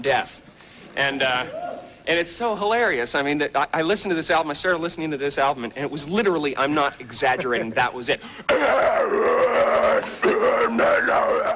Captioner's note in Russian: рычит